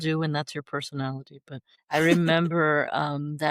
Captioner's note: laughter